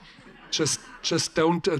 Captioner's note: audience chuckles